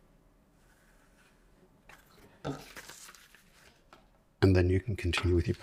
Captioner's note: silence